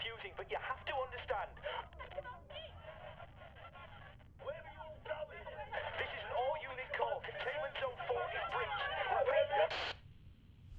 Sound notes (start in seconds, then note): 2.1 angry voices in background over walkie talkie; 9.0 static from walkie talkie